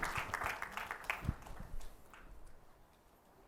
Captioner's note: applause